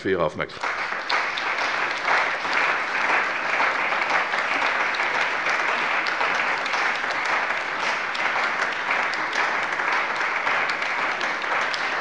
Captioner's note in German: Beifall bei der CDU und dem BÜNDNIS 90/DIE GRÜNEN